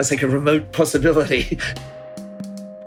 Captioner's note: laughs